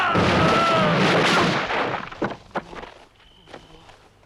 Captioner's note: door clatters; crickets chirping